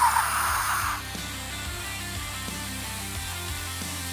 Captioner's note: sizzling